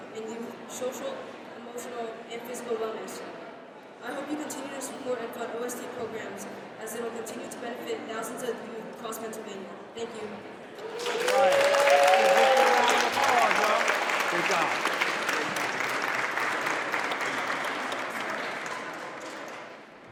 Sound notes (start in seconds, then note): 10.8 audience applauds